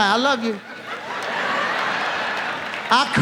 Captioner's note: audience laughs